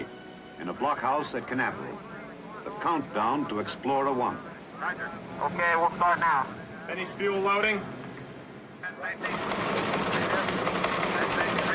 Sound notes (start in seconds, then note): 9.3 noisy typing